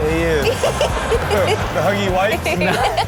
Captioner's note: Karrueche laughs